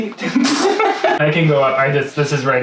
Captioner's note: laughing